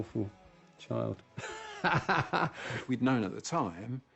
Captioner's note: laughs